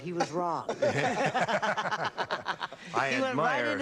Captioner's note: laughter